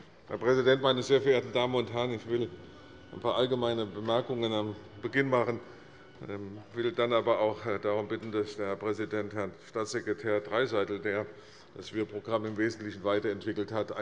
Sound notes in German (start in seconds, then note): none